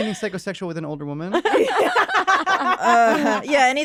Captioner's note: laughter